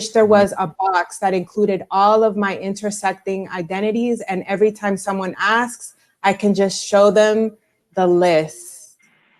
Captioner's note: broken audio